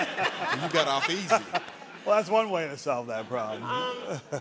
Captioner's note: all laughing